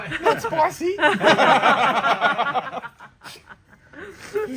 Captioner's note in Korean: ㅋㅋㅋㅋㅋㅋㅋㅋㅋㅋ